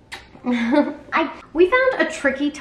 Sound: laughs

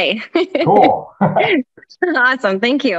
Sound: both laugh

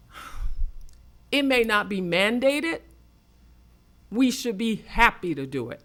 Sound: loudly sighs

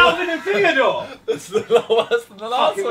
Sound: Simon laughing

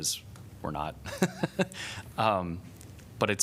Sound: laughter

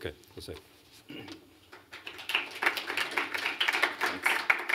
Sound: applause

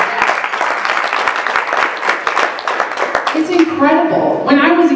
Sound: applause

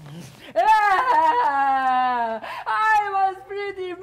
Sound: Sharik loudly crying

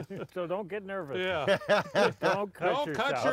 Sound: laughs

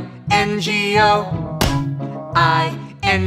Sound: clap

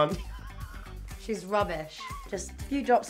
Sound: laughs

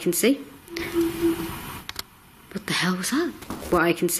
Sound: muffled synthesised noise

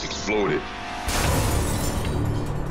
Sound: glass shattering

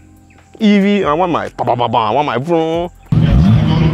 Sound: fart noises

